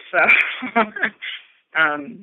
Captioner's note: chuckle